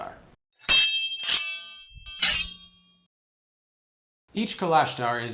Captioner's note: metallic strikes